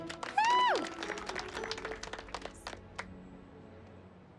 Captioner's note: applause